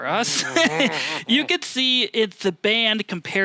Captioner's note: laughs